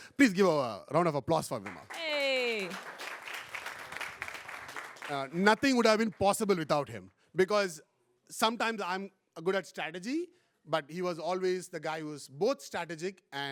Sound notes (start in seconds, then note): 1.4 applause